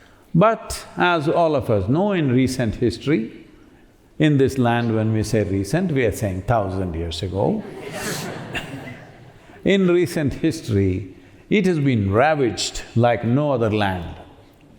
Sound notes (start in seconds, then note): 7.5 laughter